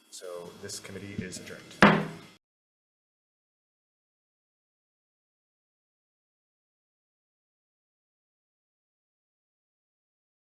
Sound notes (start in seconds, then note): 1.8 gavel bangs